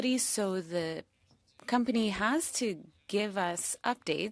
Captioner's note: speaking French